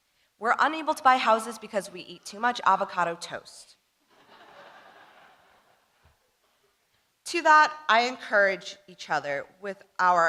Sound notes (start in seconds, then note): 4.1 audience laughing